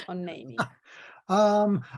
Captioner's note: laughs